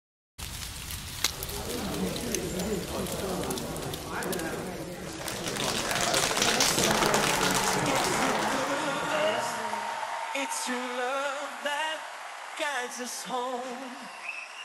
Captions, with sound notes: [ambient outdoor noises] [crowd sounds] [applause] It's your love that guides us home